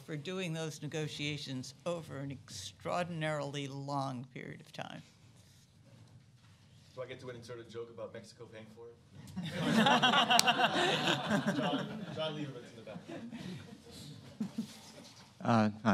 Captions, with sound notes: for doing those negotiations over an extraordinarily long period of time. Do I get insert a joke about Mexico paying for it? [LAUGHTER] John Leibovitz in the back.